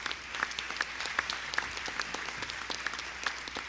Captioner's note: applause